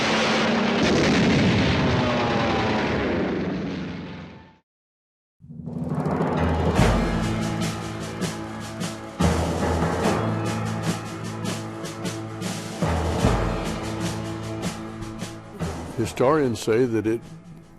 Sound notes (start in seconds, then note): 0.0 planes roaring; 0.9 guns firing; 6.7 dramatic military music